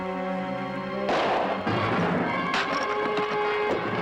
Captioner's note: gun fires